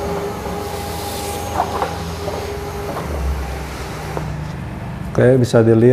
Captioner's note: printer machine noise; plastic noise